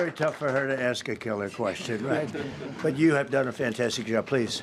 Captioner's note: applause